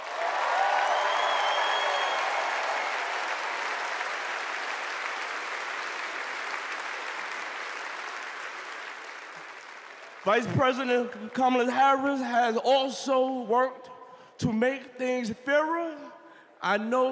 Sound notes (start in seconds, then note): 3.5 cheers and applause